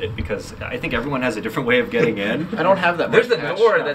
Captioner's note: laughing